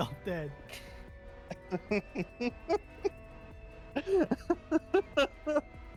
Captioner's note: laughs